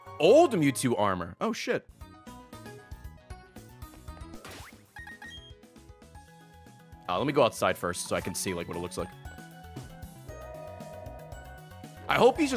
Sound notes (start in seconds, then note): none